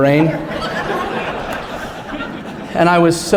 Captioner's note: laughter